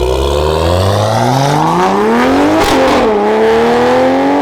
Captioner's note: engine revving